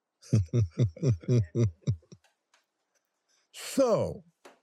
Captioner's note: laughs